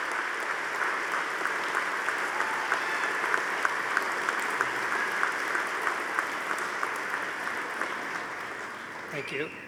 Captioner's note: audience applauding